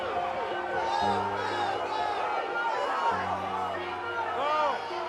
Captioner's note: alarm sounding